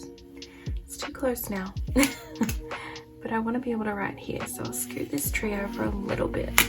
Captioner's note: laugh